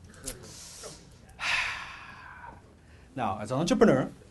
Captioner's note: exhales loudly